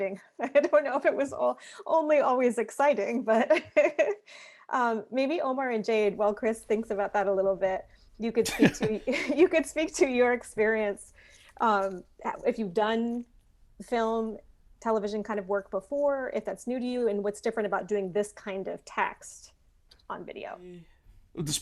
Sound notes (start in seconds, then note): 3.7 laughing